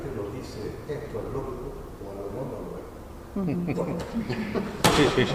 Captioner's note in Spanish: risas